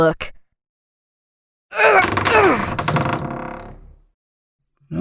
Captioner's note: Elizabeth grunt, metal door sliding